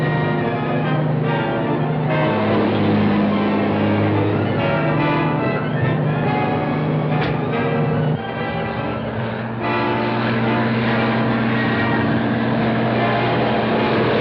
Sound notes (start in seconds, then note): 2.0 truck accelerating; 7.0 punches; 10.5 suspenseful music